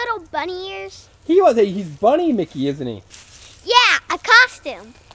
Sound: voiceover

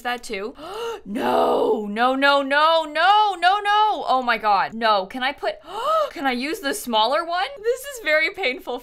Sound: gasps

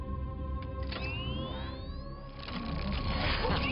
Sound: whirring

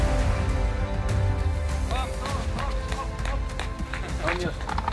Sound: applause

